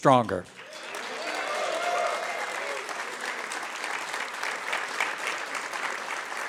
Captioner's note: applause